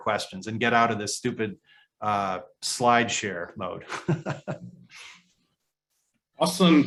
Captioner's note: laughs